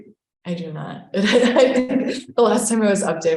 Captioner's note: laughs